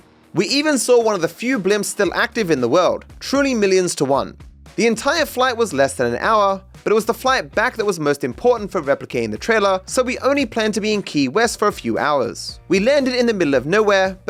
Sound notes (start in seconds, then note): none